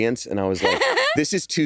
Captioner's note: chuckles